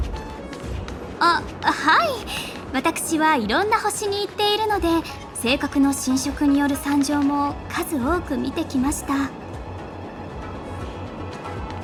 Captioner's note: sigh